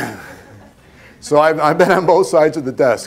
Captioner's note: laughter